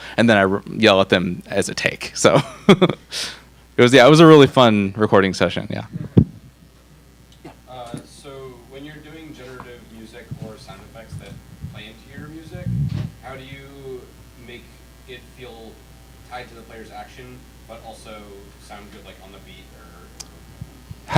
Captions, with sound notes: And then I yell at them as a take, so (laughs) it was, yeah, it was a really fun recording session, yeah. - So when you're doing generative music or sound effects that play into your music, how do you make it feel tied to the player's action, but also sound good, like on the beat or?